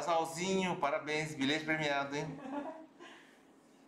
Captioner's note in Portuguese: risos